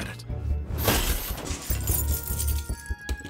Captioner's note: keys jingling; curious music plays